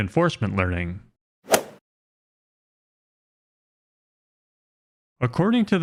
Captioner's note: golf swing sound effect